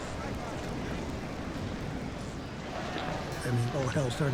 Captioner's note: wind gusting